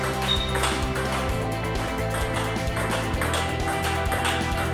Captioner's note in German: Spielgeräusche